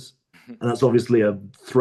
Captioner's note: laughs